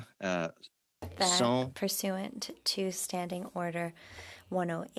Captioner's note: speaking French